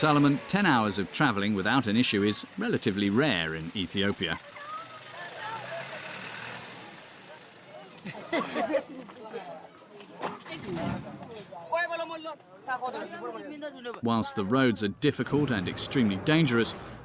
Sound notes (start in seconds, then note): 4.9 truck engine revving; 8.0 laughing; 9.5 indistinct chatters